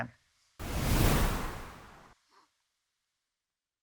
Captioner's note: air whoosh